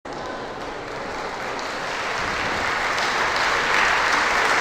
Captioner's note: applause